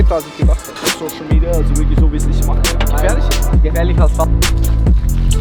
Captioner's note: speaking in foreign language